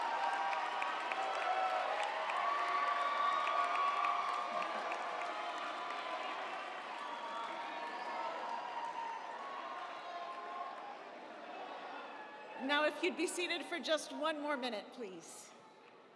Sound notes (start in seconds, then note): 3.4 audience applauding; 3.4 audience cheering